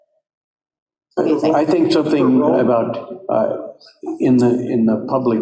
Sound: audience laughing

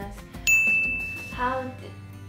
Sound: bell dings

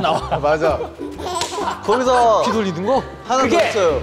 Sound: laughing in agreement

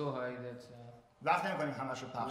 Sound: speaking in farsi

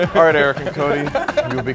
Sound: men laughing

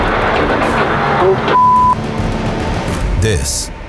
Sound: beep

